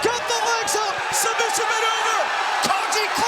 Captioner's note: crowd cheers